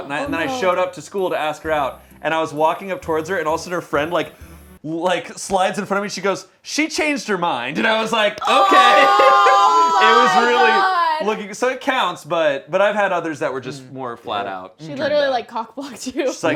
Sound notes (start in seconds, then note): 8.4 groans